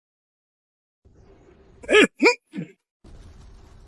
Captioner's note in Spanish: Suspiro